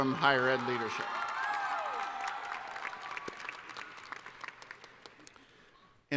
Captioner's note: cheering